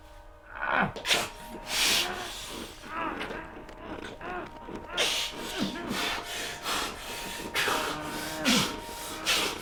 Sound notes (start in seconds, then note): 0.6 groaning